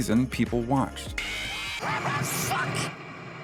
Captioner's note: freddy fazbear screech